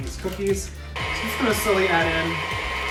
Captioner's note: mixer whirring